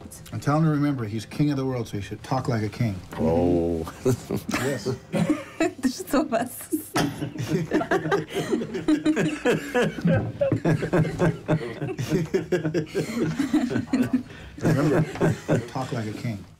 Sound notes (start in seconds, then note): 7.4 laughing